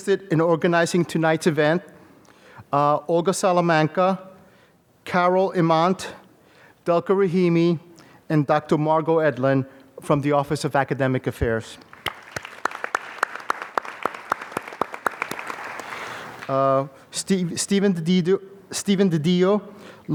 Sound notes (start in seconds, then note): 11.8 applause